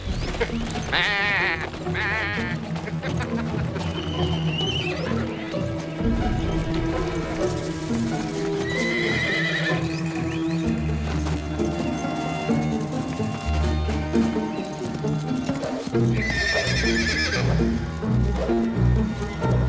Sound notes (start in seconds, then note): 0.3 men mocking, imitating sheep; 16.1 horse neighing